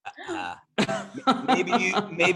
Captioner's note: laughs